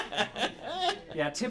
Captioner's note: laughter